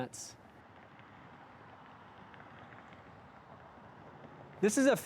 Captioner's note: traffic sounds